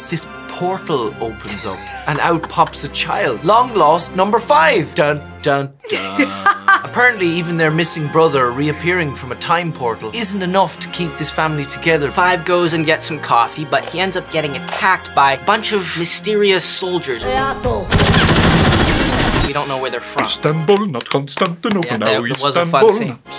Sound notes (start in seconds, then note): 17.8 gunshots